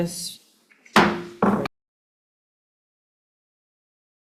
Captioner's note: gavel pounding